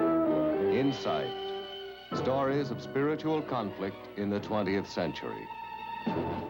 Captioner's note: theme music; announcer over music; theme music